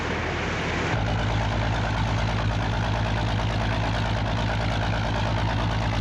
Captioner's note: boat engines rumbling